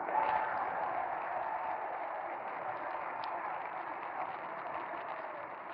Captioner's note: audience applauding and cheering